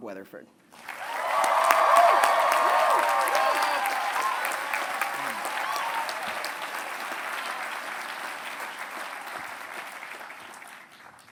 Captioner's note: applause